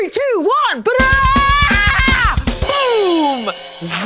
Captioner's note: loud drumming; screaming